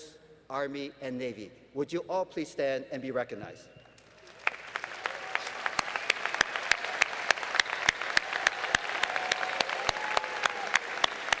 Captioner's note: applause